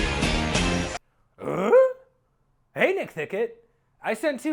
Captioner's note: confused grunt